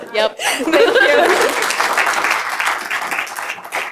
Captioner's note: laughter